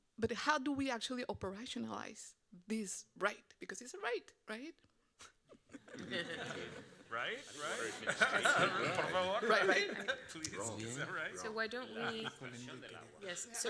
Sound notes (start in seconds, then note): 6.1 all laughing; 8.4 laughing; 9.3 speaking Spanish